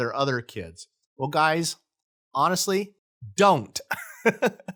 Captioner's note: laughs lightly